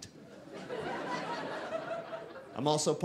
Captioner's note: audience laughing